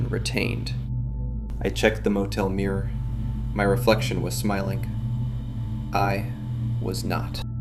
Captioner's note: voice trembling